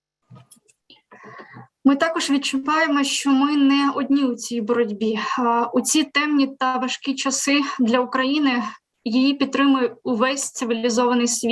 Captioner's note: foreign Language